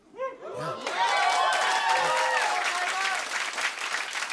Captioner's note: cheering and applause